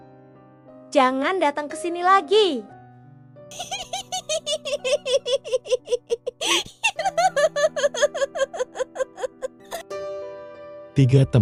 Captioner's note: laughs